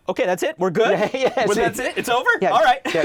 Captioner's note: laughs